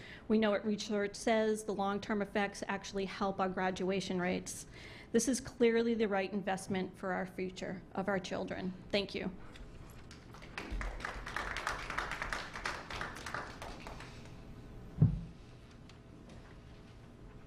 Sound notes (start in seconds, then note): 13.0 clapping